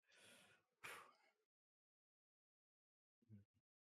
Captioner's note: sighs